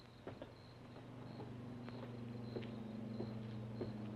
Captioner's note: plane engine droning distantly